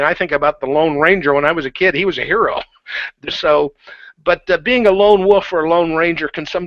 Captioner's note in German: lacht